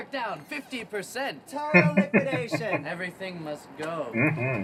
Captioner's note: chuckling